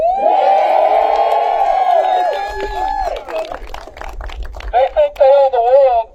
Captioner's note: applause